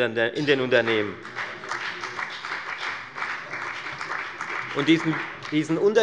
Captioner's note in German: Beifall bei der FDP